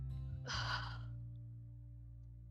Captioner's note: sigh